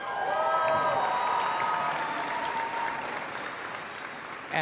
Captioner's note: applause